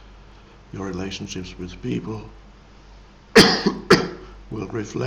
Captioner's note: coughs